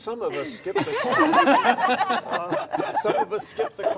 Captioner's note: laughs